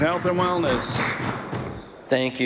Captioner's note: applause